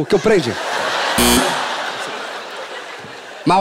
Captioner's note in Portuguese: campainha